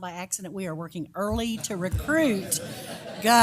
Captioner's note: laugh